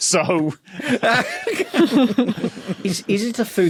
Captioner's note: laugh